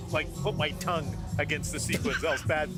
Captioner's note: laughter